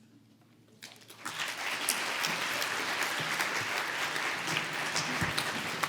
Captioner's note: applause